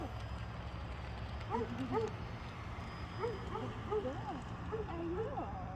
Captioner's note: barking dogs in background